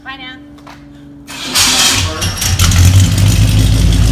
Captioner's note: car engine starts